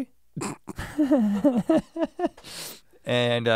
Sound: chuckles

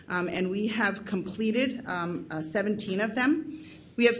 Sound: none

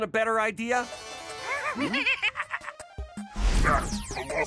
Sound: evil laughter

